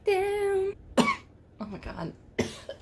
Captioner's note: cough